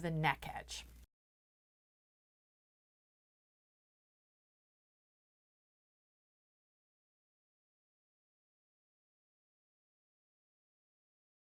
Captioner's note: no Sound Present